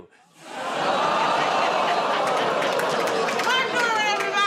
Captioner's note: audience "Oh"s